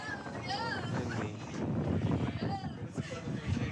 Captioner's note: wind blowing